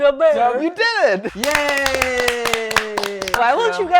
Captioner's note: cheering